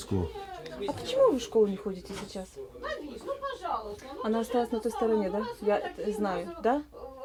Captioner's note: speaking in foreign language; kids speaking in foreign language